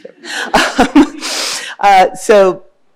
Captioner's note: laughing